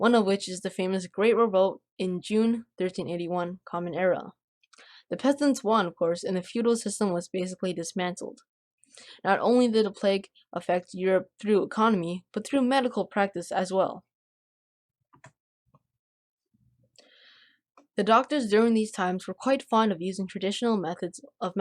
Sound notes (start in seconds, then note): 15.1 click